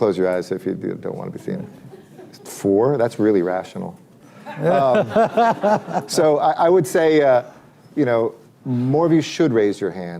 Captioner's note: laughter